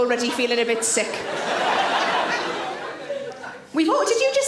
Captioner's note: audience laughing